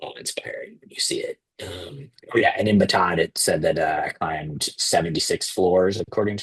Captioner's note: clears throat